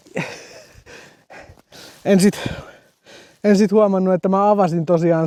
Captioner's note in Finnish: läähätys